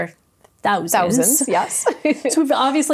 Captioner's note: laughs